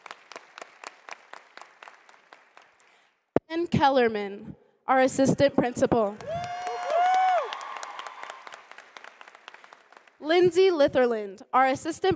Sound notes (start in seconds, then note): 0.0 applause